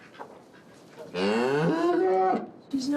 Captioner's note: distressed mooing